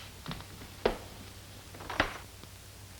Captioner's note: door Creaking